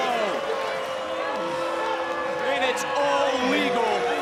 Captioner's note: crowd jeering